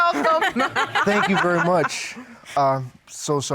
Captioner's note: laughter